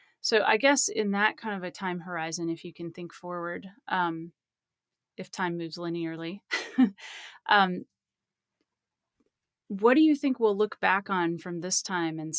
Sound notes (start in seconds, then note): 6.9 laughs